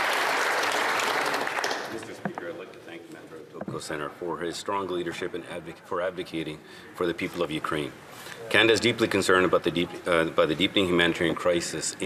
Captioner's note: applause